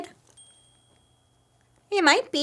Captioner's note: bell chiming